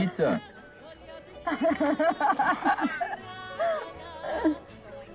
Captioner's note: laughing